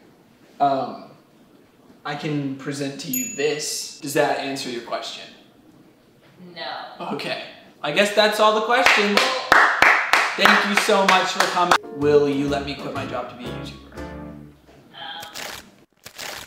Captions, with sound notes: I can present to you this. Does that answer your question? - No. - Okay. I guess that's all the questions. (applause) Thank you so much for coming. Will you let me quit my job to be a YouTuber?